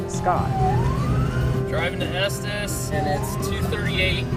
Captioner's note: siren